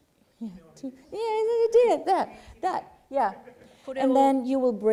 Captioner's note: speaking japanese